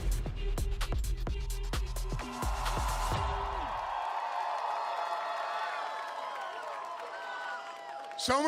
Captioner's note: cheering